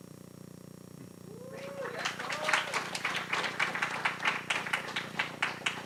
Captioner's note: cheering